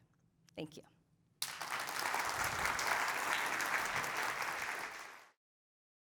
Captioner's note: applause